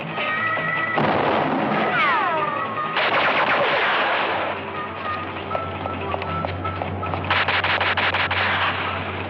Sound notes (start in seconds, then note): 0.8 bullet whistling; 0.8 gunshot; 2.8 gunshots; 7.2 gunshots